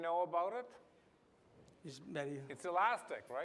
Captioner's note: non-english